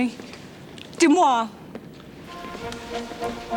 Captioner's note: speaks French; Jilly speaks French; upbeat orchestral music